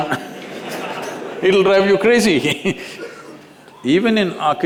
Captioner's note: laughter; laughs